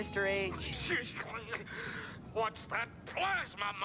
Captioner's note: senator mumbles